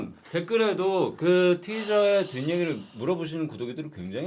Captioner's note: sigh